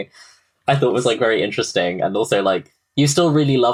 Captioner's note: laughing